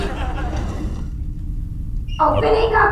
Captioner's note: sound of door opening